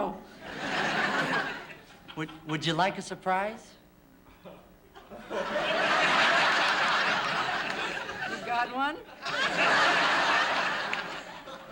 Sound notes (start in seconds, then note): 0.4 laughter; 4.9 laughter